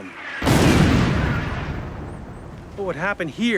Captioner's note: bomb explodes